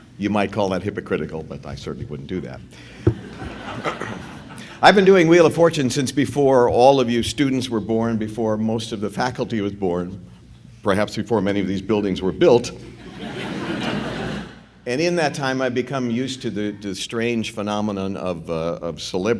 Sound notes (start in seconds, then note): 3.0 laughter; 12.9 laughter